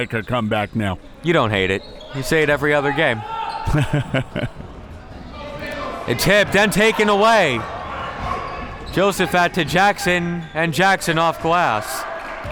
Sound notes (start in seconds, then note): 3.4 laughs